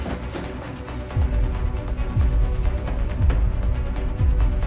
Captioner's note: timer ticking